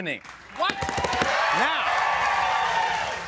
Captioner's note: cheers and applause